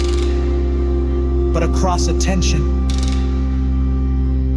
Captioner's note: stereo channels separate